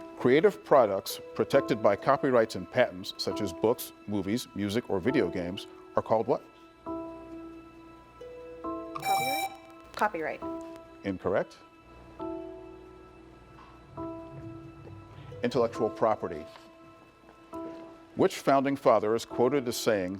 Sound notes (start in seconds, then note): 9.0 presses buzzer